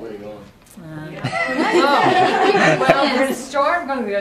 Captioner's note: laughter